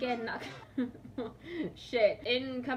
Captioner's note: laughs